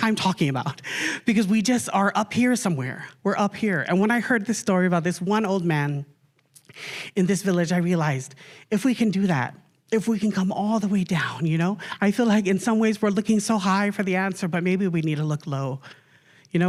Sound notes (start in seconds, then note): none